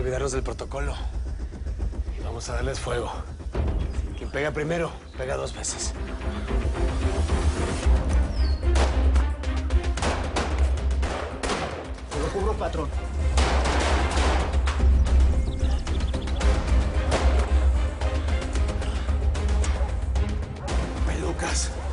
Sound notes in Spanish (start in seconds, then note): 9.9 Disparos; 13.2 Disparos; 17.0 Disparo